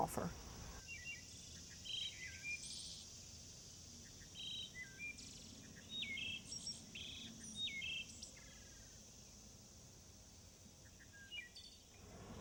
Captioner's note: birdsong